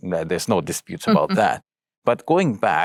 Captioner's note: chuckles